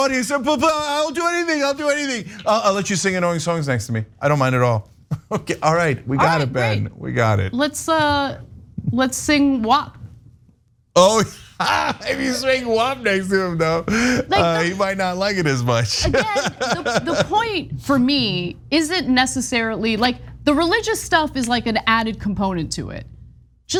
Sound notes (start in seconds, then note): 5.1 laugh; 11.0 laugh